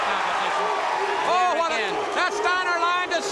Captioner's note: crowd cheering